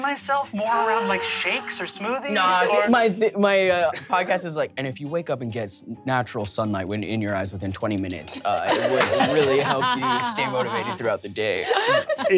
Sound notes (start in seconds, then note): 4.0 deep voice